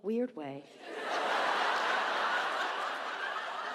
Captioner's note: audience laughs